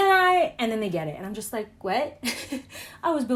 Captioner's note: laughs nervously